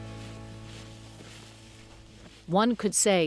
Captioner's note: boots rustling through grass